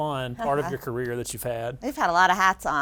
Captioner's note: laughing